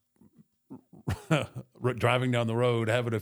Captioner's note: chuckles